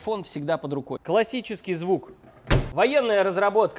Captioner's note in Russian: захлопывается дверь